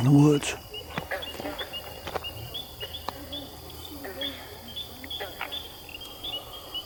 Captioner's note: katydids forest sounds